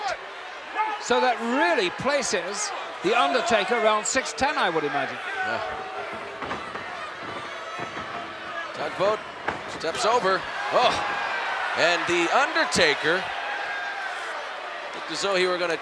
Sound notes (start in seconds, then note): 5.3 applause